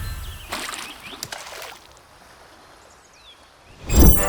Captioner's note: water splashes; electronic buzzing